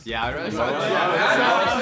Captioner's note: laughing